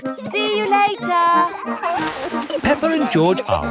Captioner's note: peppa and george laughing